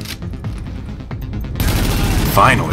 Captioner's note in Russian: огонь очередями